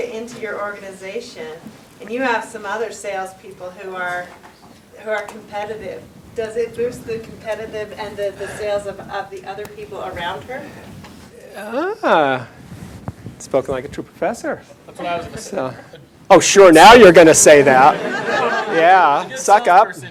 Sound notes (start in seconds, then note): 17.7 laughter